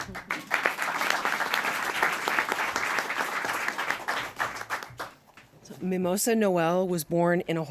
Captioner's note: applause